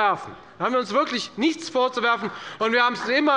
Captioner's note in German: Beifall der Abg